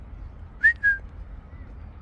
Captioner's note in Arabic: صافرة